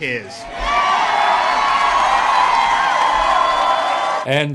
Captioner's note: audience cheering